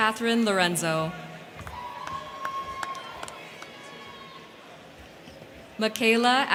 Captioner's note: crowd cheering; crowd clapping